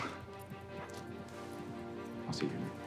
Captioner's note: Monty chuckles